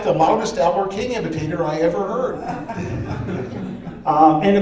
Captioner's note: laughter